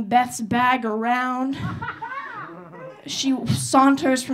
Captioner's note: audience laughing